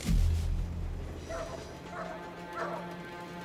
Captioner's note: barking continues